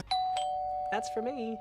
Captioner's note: ding Dong